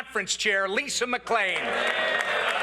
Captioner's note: applause